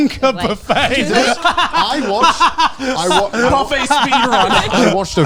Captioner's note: laughing